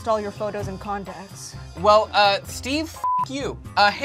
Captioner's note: beep